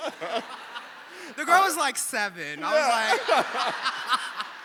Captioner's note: audience laughing